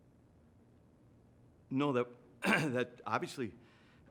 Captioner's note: clears throat